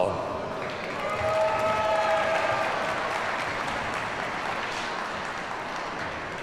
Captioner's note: audience cheers and applauds